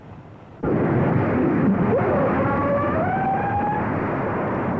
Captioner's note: rocket engine roaring